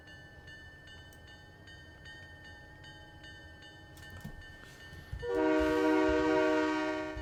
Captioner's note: train whistle